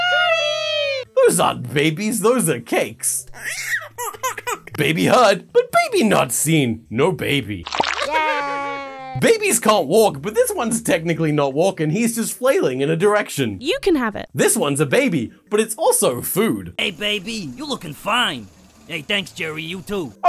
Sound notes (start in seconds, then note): 3.2 baby cry; 7.6 squelch